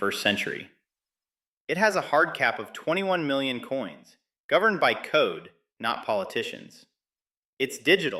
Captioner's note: excited